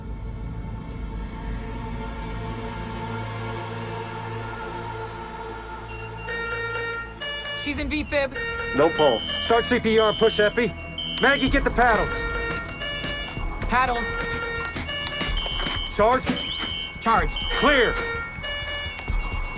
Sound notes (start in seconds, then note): 5.5 machinery beeping rapidly; 14.2 paddles humming